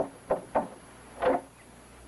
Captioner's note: door unlocks